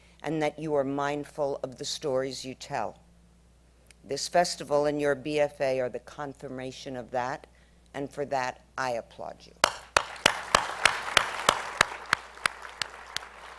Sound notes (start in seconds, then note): 9.6 applause